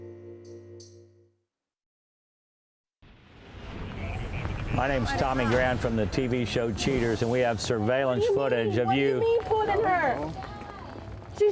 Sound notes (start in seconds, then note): 3.6 chatter over radio